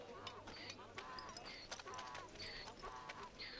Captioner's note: donkey braying